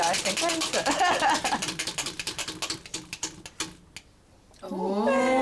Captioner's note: laughs